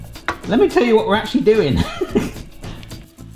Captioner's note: laughing